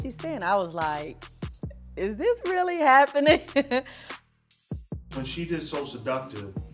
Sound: laughing

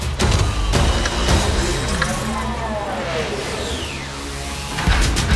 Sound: gears whirring; metal clattering

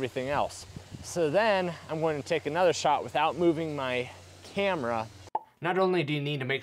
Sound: pop

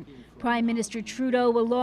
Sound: speaking alternate language

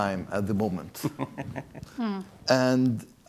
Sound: chuckles

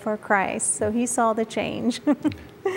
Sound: giggle

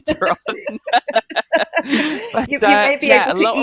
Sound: laughing

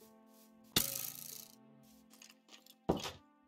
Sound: arrow hits

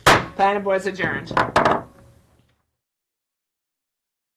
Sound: hammers desk

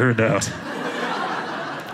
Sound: audience laughing

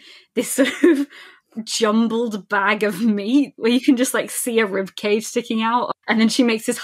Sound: laughing

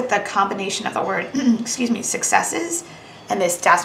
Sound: coughing

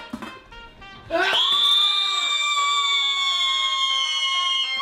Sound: screaming

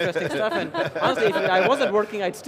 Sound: laughter

